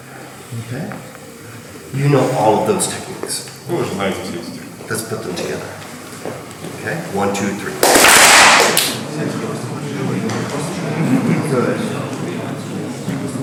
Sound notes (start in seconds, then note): 3.9 speaking in a foreign language; 7.7 clap